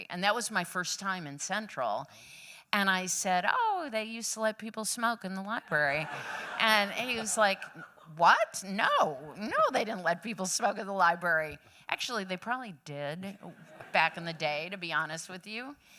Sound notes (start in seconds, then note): 5.8 laughter